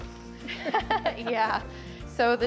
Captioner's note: laughing